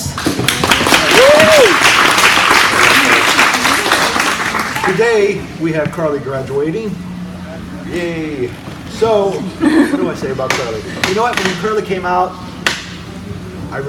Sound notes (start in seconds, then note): 0.0 audience applauds; 9.5 audience laughs